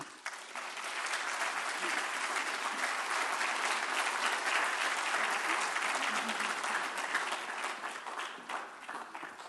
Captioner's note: applause